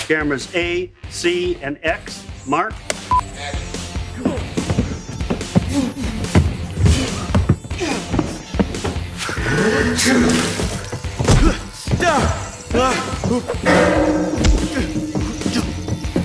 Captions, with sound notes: Cameras A, C and X, mark. Action. [groaning] [spitting] [groaning]